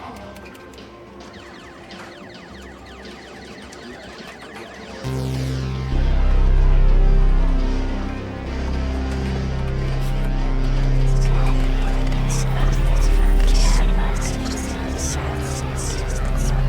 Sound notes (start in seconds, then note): 1.2 video game shooting; 5.1 ominous music